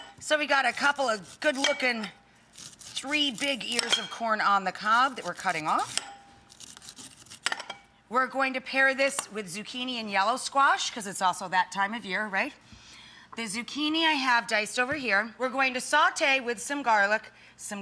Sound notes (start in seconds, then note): 6.5 crunching